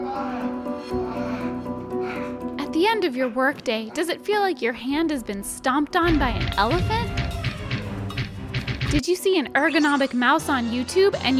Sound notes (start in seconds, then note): 0.1 yelling; 6.0 foot stomping